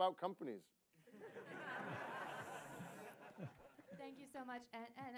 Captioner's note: laughter